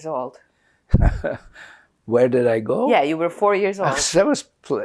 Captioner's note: laughing